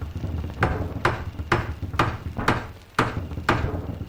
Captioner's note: hammer banging